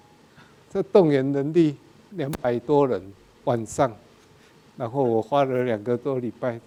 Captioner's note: speaking in a foreign language